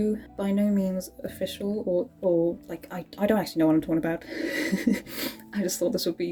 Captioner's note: laughs